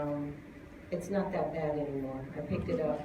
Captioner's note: laughter